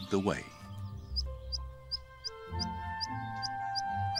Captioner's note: chirping